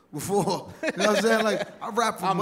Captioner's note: laughs